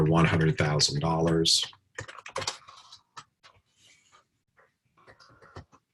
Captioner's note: typing Sounds